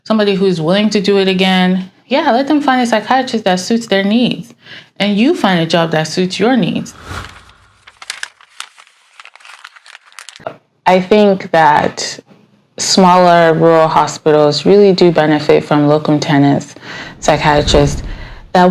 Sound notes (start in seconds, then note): 7.8 paper rustling